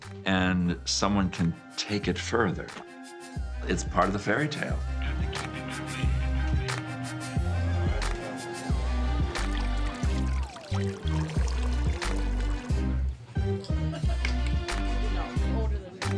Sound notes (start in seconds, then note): 5.4 exciting music; 9.4 water sloshing; 11.5 exciting music continues